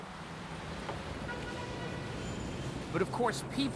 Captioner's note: traffic